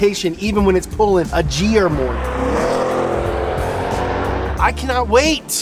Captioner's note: engine revs